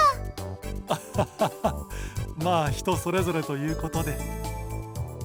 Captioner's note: awkward laugh